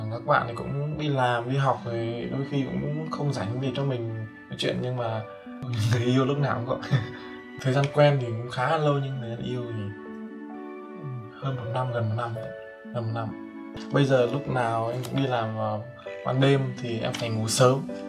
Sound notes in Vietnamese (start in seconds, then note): 6.9 cười